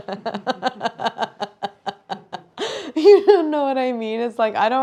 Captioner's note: laughs